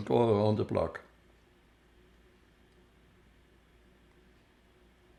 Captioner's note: pauses 10 seconds